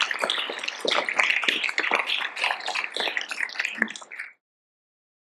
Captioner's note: audience applauding